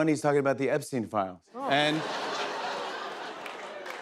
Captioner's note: laughter